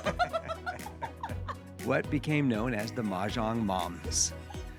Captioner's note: laugh